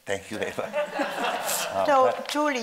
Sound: audience laughing

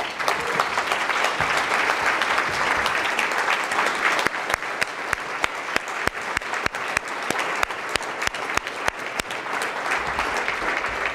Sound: applause

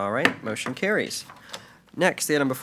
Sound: gavel bangs

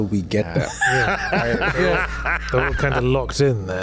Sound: laughs Hard

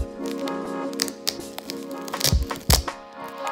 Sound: peeling noises

